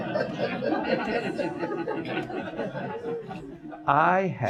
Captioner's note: audience laughs